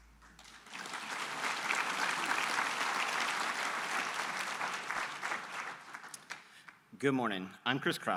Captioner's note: applause